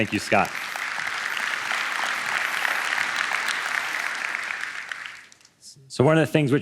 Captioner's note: applause